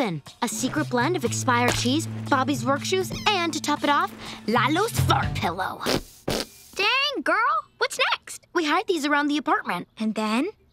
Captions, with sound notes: A secret blend of expired cheese, Bobby's work shoes, and to top it off, Lalo's fart pillow. [farting] Dang, girl. What's next? We hide these around the apartment And then?